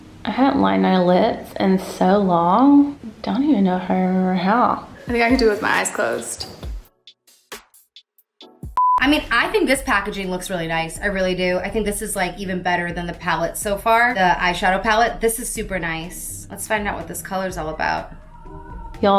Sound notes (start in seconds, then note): 6.8 upbeat music; 8.7 beep